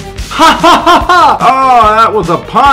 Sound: laughter

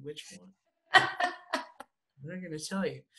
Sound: laughs

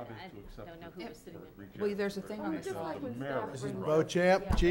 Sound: crowd chattering

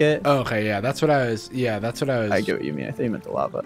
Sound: none

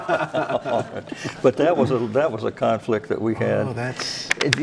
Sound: all laugh

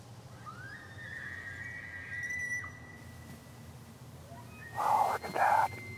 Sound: elk screeches

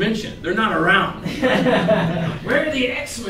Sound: laughter

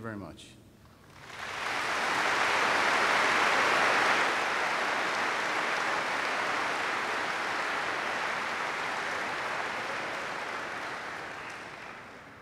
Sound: applause

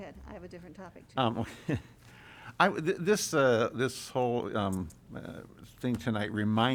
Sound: laughter

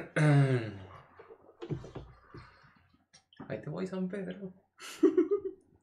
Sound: clears throat; laughs

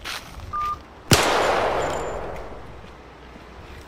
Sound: loud gunfire

